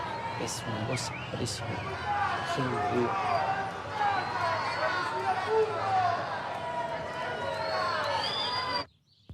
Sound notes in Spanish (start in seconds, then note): 7.1 gritos y silbidos